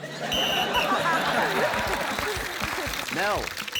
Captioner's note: blows whistle; blows whistle